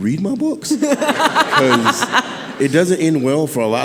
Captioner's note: audience laughing